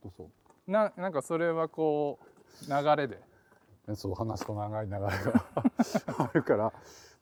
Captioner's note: laugh